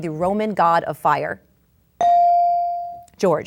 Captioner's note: bell dings